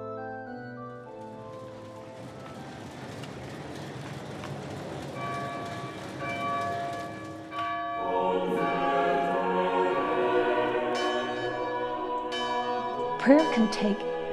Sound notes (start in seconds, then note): 6.0 bells ringing; 9.1 singing